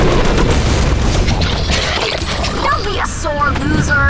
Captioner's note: 2Bells growling